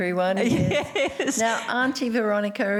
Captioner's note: laughs